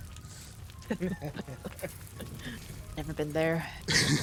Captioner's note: laughs